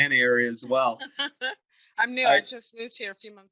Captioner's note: laughs